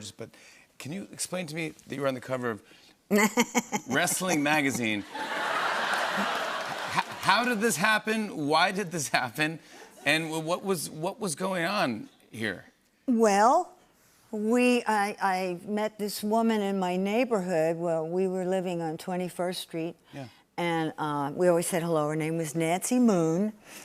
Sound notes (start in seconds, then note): 5.0 laughter